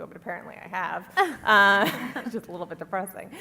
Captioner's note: laughter